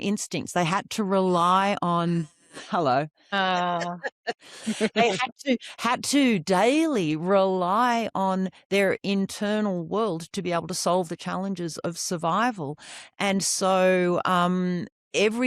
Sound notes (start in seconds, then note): 3.4 laughs